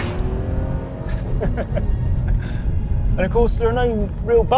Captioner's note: chuckling